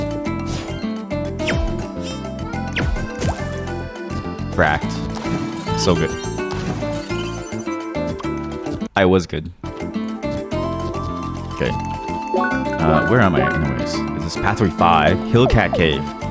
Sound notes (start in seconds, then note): none